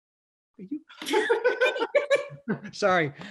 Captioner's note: all laughing